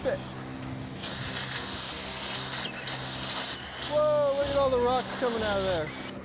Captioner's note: drilling